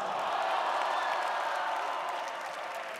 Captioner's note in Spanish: Aplausos